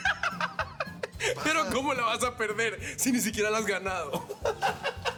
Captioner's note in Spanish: Risas